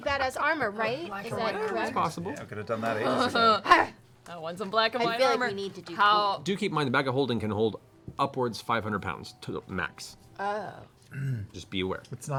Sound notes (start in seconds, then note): 2.9 laughs